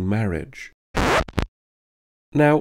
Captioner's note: record scratch audio